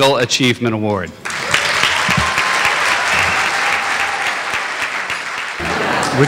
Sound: applause

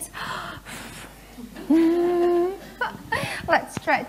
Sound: laughing

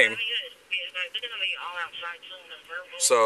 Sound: radio chatter

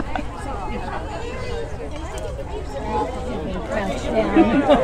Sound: laughter

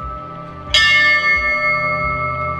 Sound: bell dings

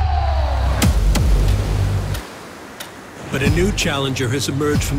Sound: waves crashing; upbeat music

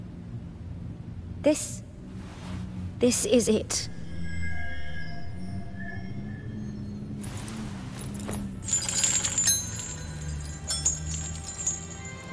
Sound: in-game audio

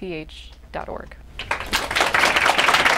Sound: applause

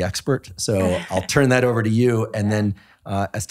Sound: laughing

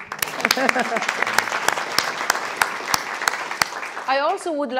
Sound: audience applauding

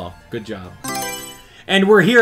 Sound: Mario Selection Sound

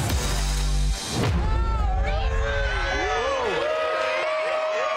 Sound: guests cheering

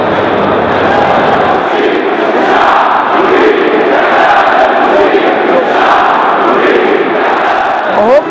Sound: chants

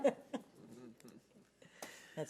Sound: laughs

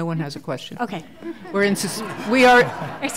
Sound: laughter

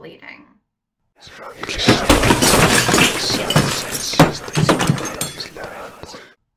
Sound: FX: Big Crash & Ominous Whispering

